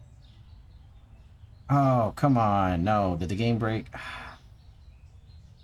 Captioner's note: annoyed sigh